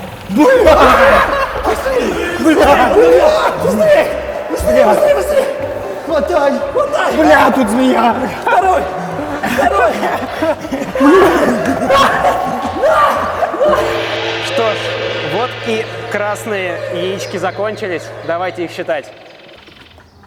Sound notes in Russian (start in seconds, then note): 11.7 крик